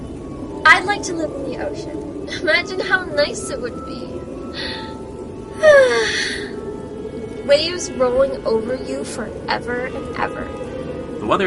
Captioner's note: dreamy sigh